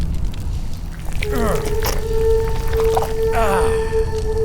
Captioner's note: blood squishes